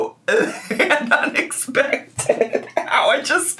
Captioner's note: laughs